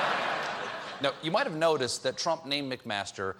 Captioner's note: laughter